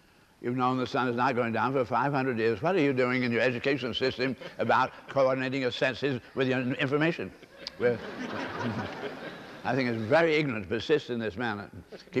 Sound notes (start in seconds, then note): 7.3 laughter